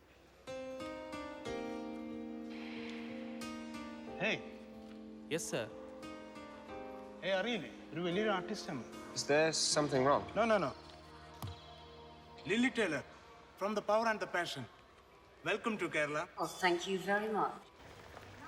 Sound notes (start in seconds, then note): 0.1 dramatic music; 6.9 speaking foreign language